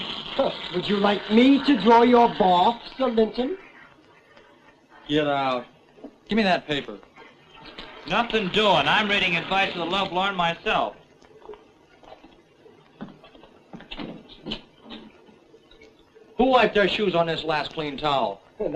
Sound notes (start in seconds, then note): 12.8 footsteps